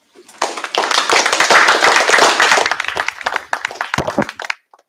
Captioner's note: applause